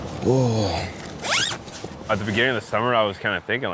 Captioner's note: zipper whizzes